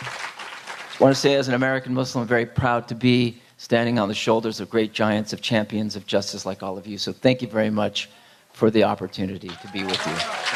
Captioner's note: applause